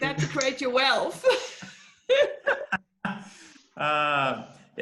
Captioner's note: laughing